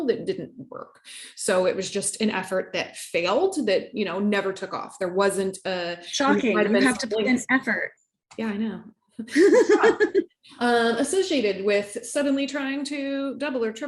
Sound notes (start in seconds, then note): 9.3 laughs